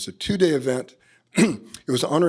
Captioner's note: clears throat